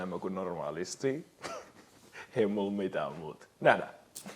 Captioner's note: chuckles